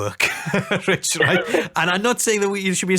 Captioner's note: laughing